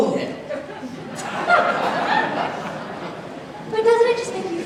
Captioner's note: audience laughs